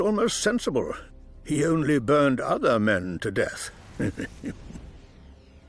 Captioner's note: chuckling